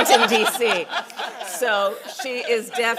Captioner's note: laughter